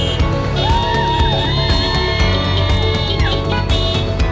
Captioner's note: crowd cheering